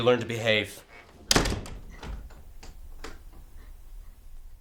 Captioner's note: slamming door, lock